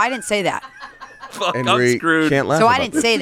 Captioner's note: beep